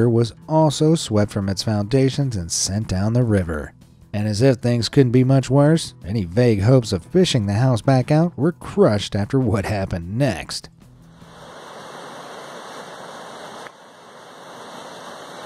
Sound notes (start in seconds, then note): 11.2 river flowing